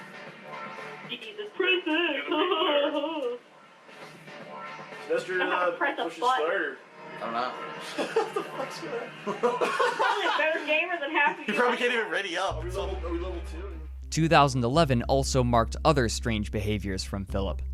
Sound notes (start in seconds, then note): 1.5 mockingly